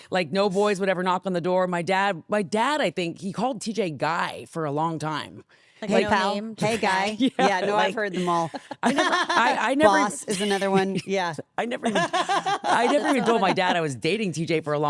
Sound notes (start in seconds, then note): 11.8 laughs